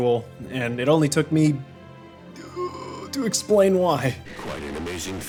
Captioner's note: groaning